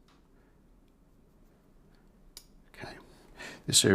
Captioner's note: silence